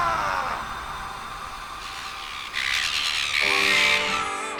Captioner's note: screams; seagulls screeching; baby crying